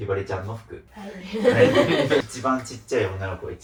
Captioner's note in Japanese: 笑い